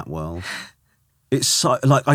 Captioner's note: laughing